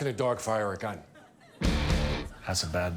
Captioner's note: audience laughing